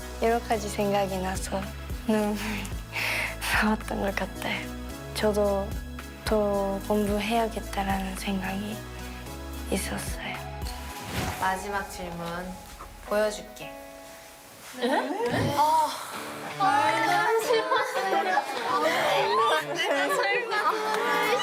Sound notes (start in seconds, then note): 15.3 sighs in unison...?